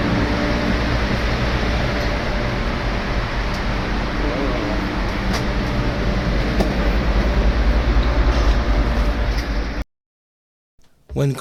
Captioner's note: muffled electronic humming